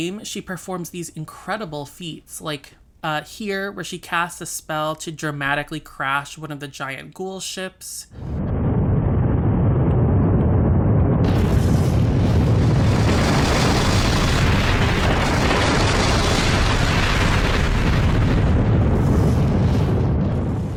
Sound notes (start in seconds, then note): 8.1 soundscape of destruction intensifies